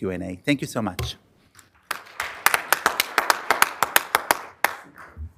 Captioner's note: applause